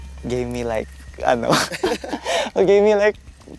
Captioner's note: giggles